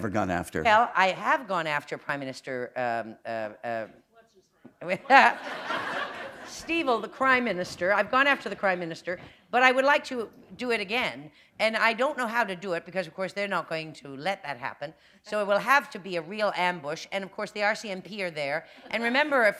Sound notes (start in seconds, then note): 4.9 laughter